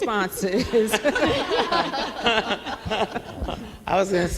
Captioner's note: laughs; all laugh